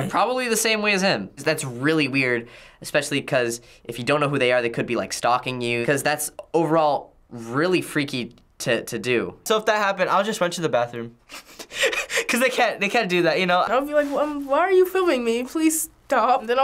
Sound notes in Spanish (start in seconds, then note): 11.3 se ríe